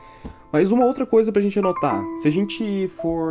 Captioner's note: none